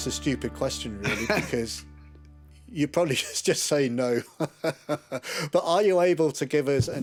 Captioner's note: laughs